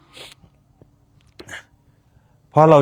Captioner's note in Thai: เสียงสูดหายใจ